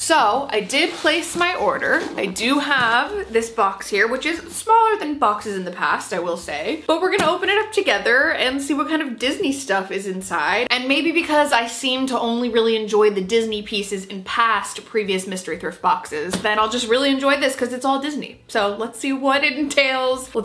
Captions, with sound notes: So I did place my order, (box shuffling) I do have this box here, which is smaller than boxes in the past, I will say, but we're gonna open it (box thumping) up together, and see what kind of Disney stuff is inside, and maybe because I seem to only really enjoy the Disney pieces in past previous mystery thrift boxes, then I'll just really (box thumping) enjoy this, 'cause it's all Disney, so let's see what it entails.